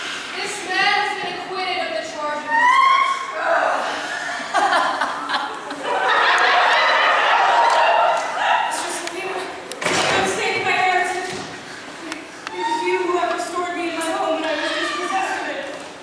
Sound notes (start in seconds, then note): 2.4 CHORUS wail; 3.8 APOLLO laughs